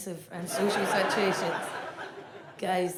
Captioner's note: audience laughs